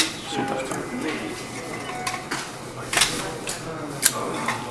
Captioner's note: distant voice